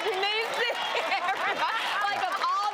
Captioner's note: audience applause